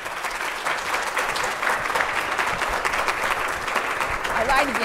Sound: audience applauding

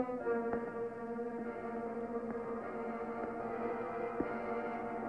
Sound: quiet footsteps

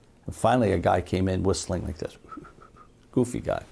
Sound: whistles softly

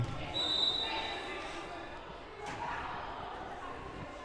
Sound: whistle blowing

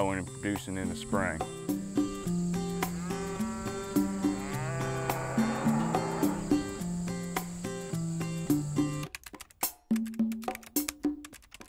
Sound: cows mooing, Typing

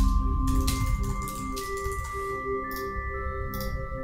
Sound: keys clacking

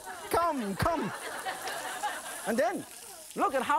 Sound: laughing

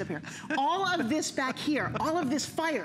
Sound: laughter

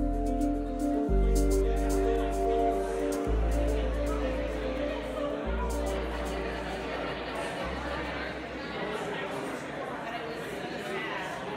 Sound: audience chatter and applause

